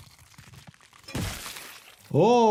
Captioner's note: head smashing